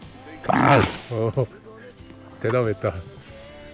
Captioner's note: grrrr